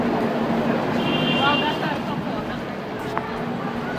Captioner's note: horn blowing